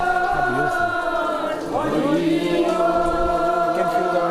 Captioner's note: chanting in Hindi